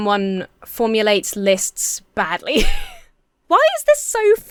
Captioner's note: laughs